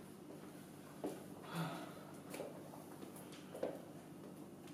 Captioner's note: sighing